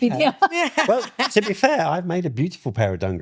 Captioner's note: laughing